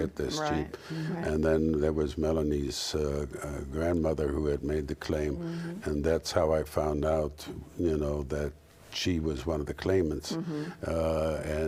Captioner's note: sound of agreement; sound of agreement